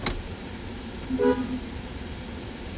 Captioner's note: horn Honking